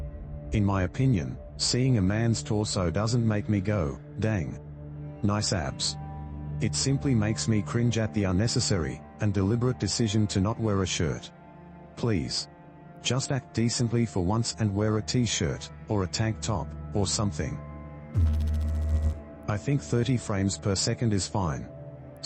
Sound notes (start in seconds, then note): 18.1 electrical noise